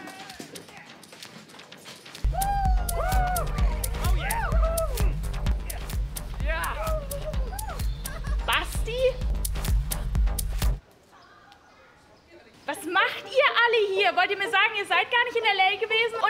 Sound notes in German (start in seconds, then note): 2.3 Jubelrufe; 10.1 Musik stoppt